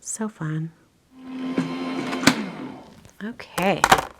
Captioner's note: tool whooshing